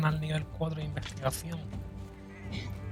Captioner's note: laughs